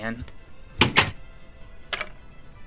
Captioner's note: doorclosing.mp3